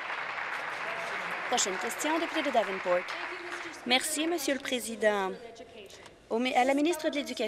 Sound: applause

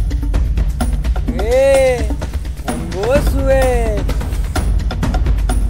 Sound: in Hindi

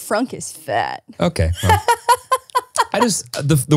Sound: laughs

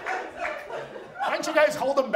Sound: audience laughs

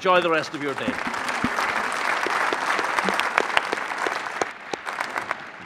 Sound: audience applauding

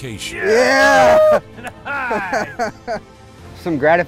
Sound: chuckles

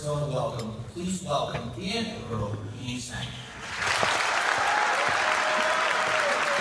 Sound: cheers and applause

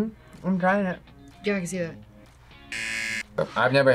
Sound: buzzer

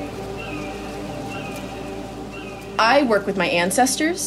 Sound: bird cawing

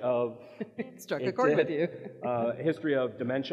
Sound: laughs

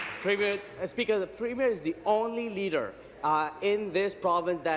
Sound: applause

